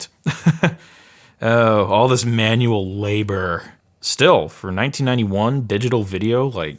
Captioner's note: laughs